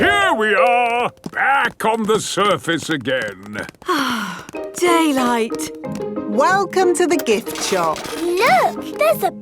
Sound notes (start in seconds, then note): 3.8 sighs